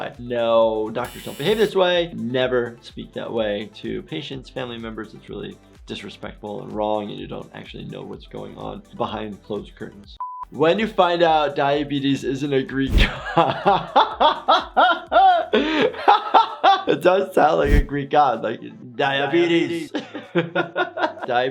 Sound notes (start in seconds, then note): 15.1 laughs; 20.0 laughs